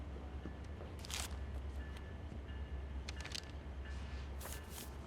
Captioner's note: money rustling